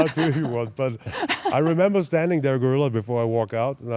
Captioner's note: laugh